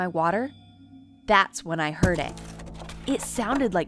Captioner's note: objects thudding